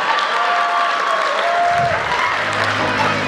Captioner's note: cheering